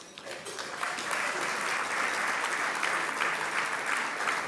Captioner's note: audience applauding